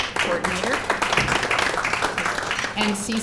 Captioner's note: applause